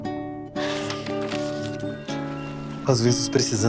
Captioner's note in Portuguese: Ruído de papel